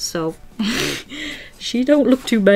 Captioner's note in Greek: Γέλια